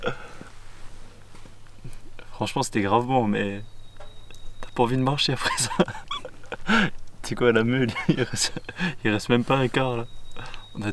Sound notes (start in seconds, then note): 5.3 laughs